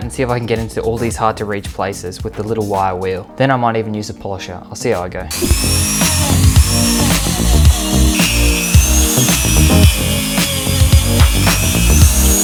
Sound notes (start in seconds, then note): 5.3 tool whirring